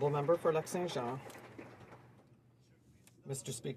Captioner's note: applause